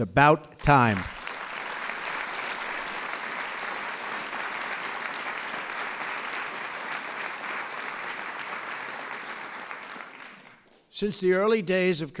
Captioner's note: applause